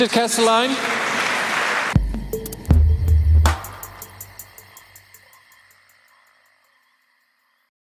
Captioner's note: applause